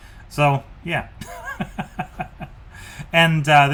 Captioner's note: laughs